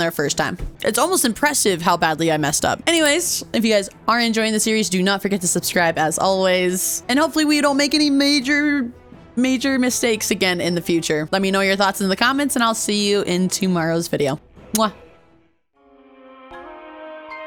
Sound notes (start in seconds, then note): 14.7 kiss